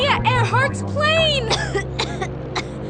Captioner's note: coughs